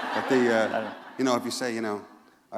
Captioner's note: laughter